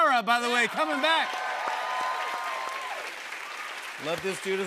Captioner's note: cheers and applause